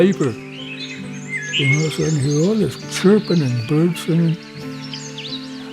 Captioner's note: bird sounds get louder